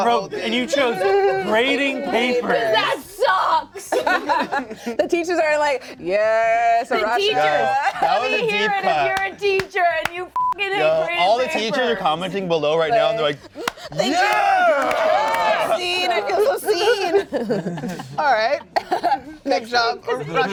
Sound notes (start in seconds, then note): 3.8 laughs; 10.3 beep